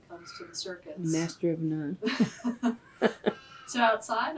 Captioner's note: laughter